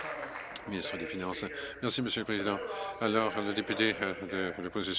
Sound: applause

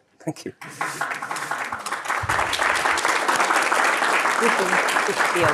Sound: audience applauds

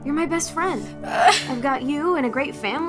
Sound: exclaims sadly

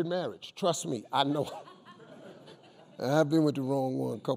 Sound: crowd laughing

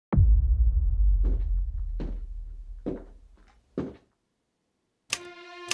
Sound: footsteps

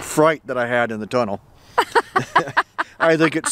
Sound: laughing

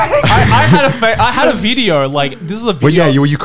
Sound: laughing lightly

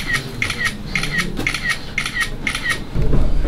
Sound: Hamster's shutter sound isn't going to end soon

